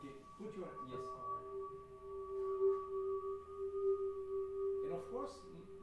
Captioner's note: high pitched sound playing